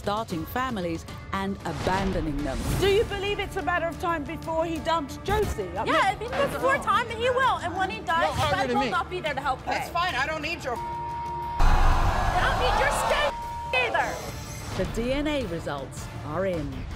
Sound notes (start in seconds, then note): 11.5 crowd booing